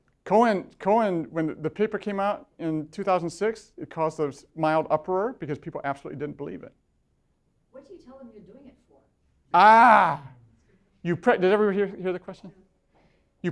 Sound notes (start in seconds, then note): 7.8 voiceover